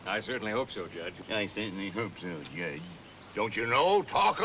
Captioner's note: mockingly